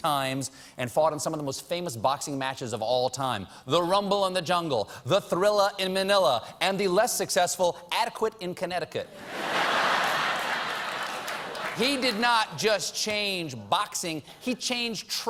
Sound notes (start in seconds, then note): 9.1 laughter